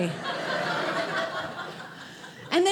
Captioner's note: audience laughing